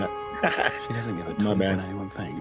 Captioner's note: laughs